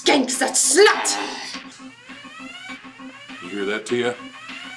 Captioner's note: alarm resounding